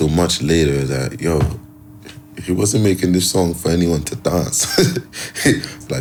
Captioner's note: chuckles